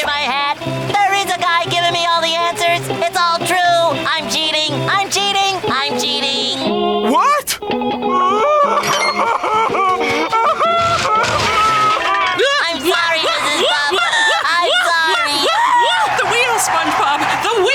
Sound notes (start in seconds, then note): 8.0 crying